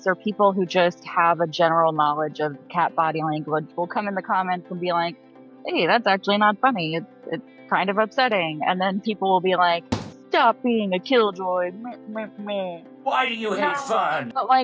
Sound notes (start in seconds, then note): 9.8 graphic thudding